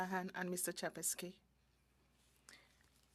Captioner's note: speaking French